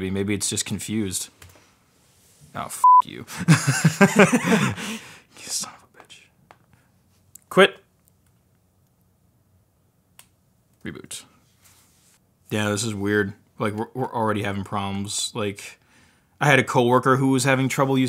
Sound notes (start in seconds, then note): 2.8 beep; 3.3 both laugh